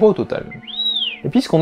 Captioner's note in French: R2 siffle